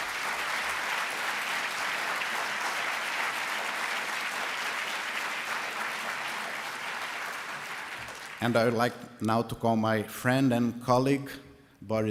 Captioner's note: applause